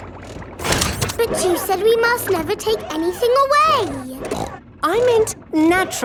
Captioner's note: snorts